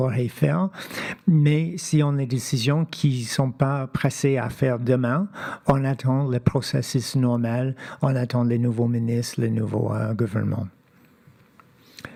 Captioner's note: speaking French